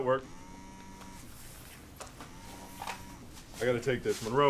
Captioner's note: phone vibrating